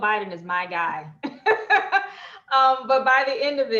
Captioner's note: laughing